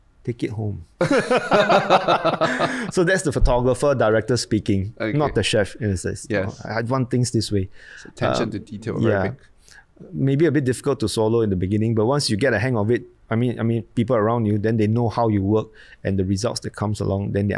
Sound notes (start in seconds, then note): 1.0 both laugh